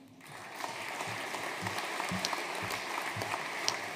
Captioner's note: audience applauding